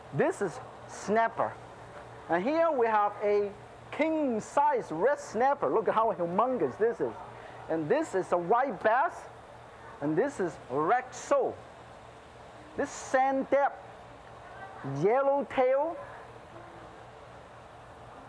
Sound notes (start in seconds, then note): none